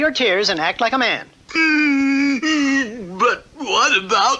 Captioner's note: King Cup stops crying